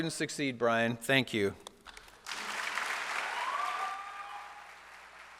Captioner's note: applause